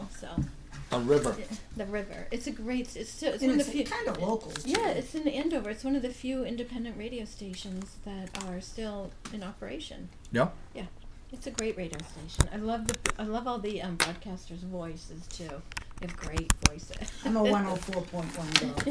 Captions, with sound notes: - [Voiceover] On River. - [Voiceover] The River. - [Voiceover] It's kind of local too. - [Voiceover] Yeah, it's in Andover. It's one of the few independent radio stations that are still in operation. - [Voiceover] Yeah? - [Voiceover] Yeah, it's a great radio station. I love all the broadcasters' voices too. They have great voices. - [Voiceover] I'm a 104.1 girl.